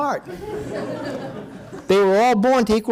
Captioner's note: audience laughing